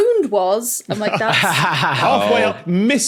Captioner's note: laughs